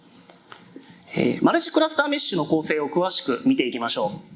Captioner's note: speaking japanese